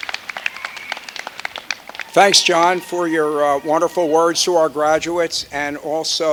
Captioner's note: applause